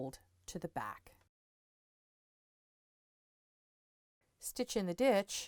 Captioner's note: no Sound Present